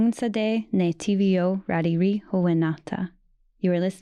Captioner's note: speaking an Indigenous language